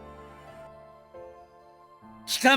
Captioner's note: silence